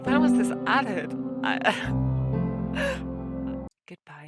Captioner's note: happiness noises